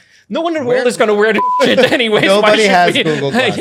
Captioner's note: beep